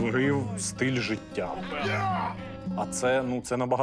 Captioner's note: yelling